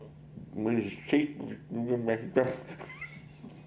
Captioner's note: laughs